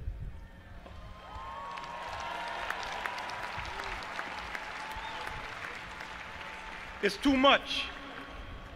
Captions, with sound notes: (audience applauding and cheering) It's too much.